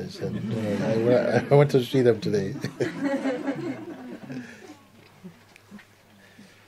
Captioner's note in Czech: smích